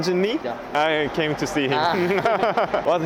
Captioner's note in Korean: 웃음